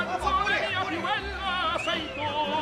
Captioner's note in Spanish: silbido